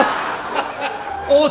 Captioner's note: laughter